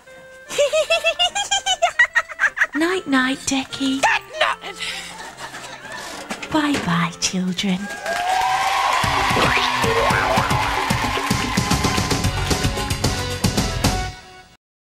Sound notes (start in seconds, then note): 0.5 GiggleFairy is still laughing; 7.8 crowd applause, sketch ends